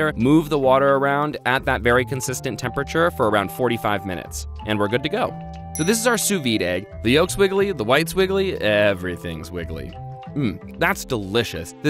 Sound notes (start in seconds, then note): 5.7 dings